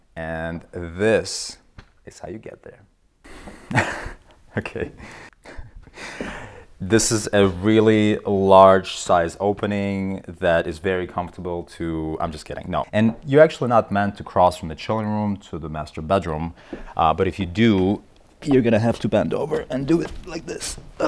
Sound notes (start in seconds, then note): 3.4 chuckles